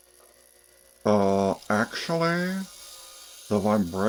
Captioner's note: reddit mod voice